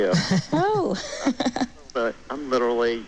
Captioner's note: laughs